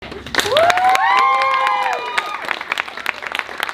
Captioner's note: applause and cheers